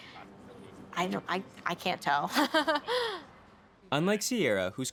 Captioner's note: laughing